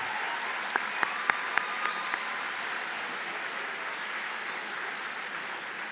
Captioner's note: applause